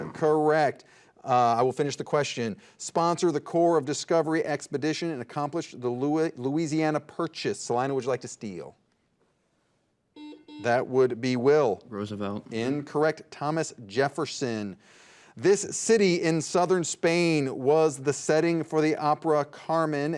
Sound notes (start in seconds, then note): 10.2 buzzer dings